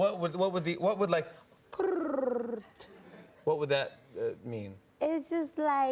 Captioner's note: chirping